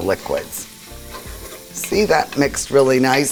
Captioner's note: food sizzling